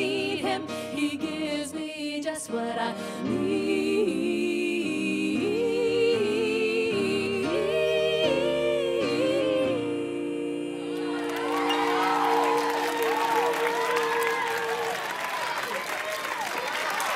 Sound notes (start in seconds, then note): 10.9 cheers and applause